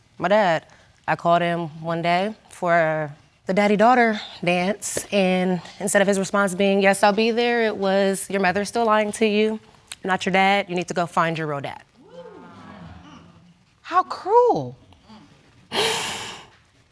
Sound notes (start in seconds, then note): 12.0 audience gasps; 15.6 sobs